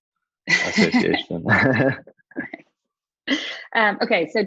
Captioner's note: both laughing